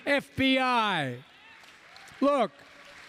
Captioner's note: applause